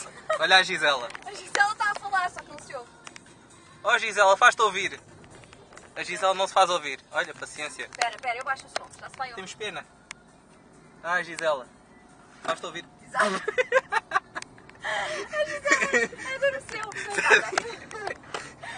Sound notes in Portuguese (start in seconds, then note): 0.0 Risos; 13.2 Risos; 17.0 Risos